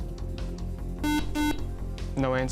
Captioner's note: buzzer